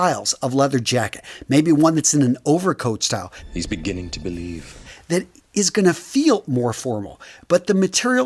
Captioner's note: sound effect